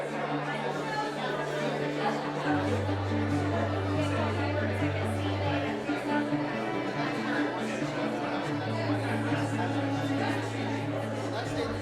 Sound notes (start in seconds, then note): 0.1 calm music; 2.8 visitors chatting